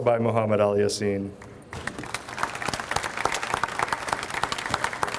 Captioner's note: audience applauds